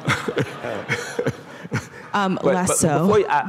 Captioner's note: laughter